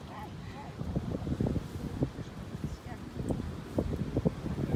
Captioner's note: wind whooshing